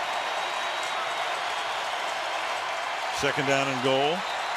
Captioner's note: crowd cheering